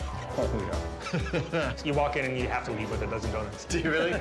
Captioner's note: laughing